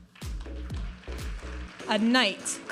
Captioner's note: audience applauding